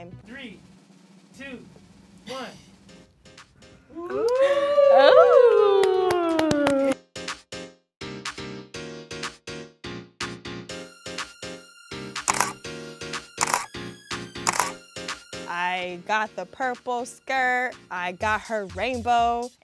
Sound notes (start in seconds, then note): 3.9 designers wooing; 7.4 light music; 12.2 camera shutters